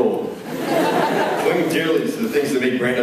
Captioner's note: laughs